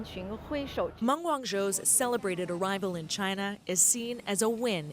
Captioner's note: speaking Foreign Language